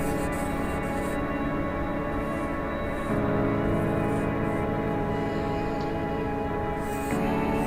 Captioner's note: marker quietly squeaking